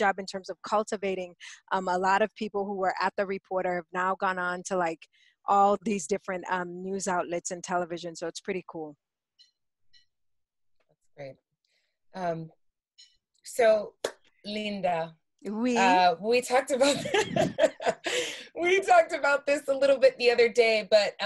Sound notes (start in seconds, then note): 16.9 laughs